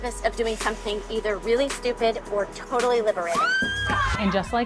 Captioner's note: screams